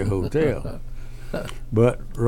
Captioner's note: laughs